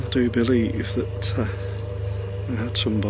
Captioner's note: none